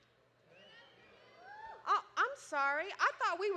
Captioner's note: crowd